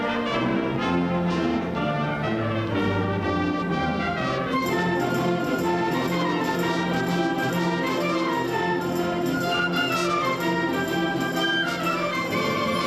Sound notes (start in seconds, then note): none